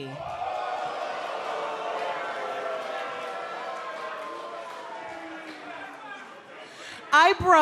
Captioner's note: crowd cheering